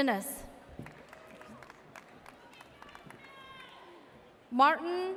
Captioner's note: audience cheers